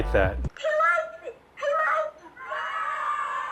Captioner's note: cheering